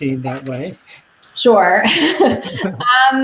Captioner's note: laughs